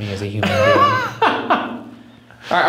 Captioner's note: laughs